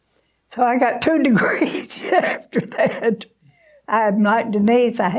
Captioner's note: laughing